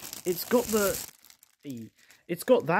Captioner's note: plastic unwrapping sound